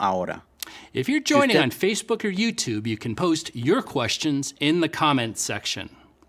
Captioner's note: speaking spanish